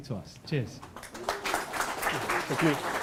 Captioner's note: audience applauding